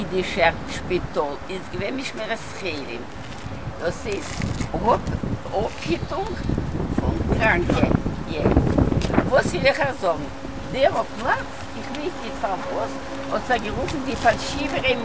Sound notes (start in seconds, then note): 4.7 in Hebrew